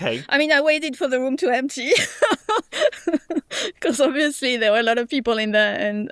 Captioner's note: laughs